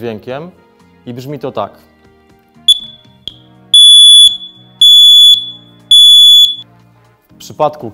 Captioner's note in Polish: wysoki alarm dźwiękowy